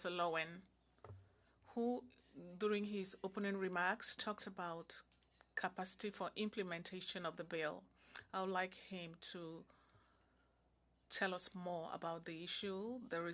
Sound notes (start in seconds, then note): 3.4 speaking in French